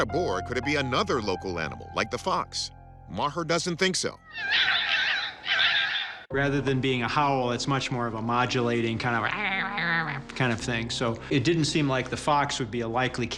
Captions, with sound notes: could it be another local animal like the fox? Maher doesn't think so. [foxes chirping] Rather than being a howl, it's much more of a modulating kind of... [chirping] ...kind of thing. So it didn't seem like the fox would be a likely candidate.